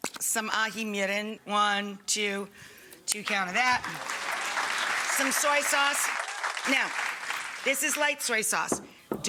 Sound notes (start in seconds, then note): 3.6 audience clapping